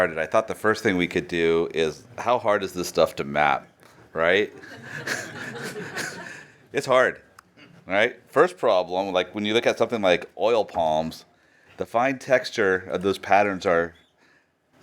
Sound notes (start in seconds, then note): 4.5 laughter